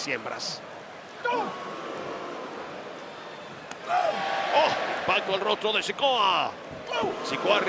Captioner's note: applause